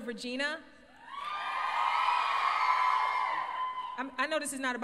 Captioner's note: crowd cheers